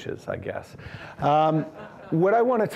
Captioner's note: audience laughing